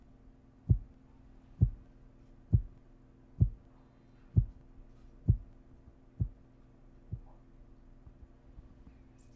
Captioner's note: heart beating sound